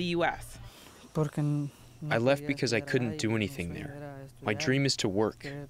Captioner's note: through translator